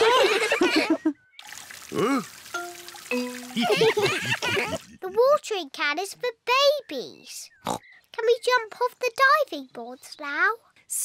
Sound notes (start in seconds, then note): 0.0 all laugh; 3.5 all laugh; 7.7 oinks